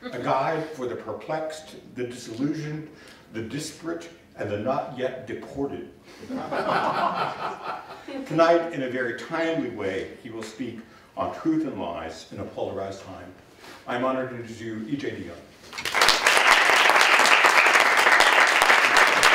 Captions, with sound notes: A Guide for the Perplexed, the Disillusioned, the Disparate, and the Not Yet Deported. [LAUGHTER] Tonight, in a very timely way, he will speak on truth and lies in a polarized time. I'm honored to introduce to you EJ Dionne. [APPLAUSE]